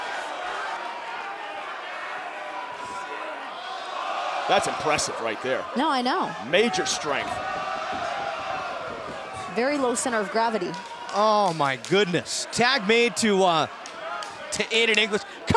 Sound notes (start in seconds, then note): 0.1 crowd cheering; 9.4 crowd cheering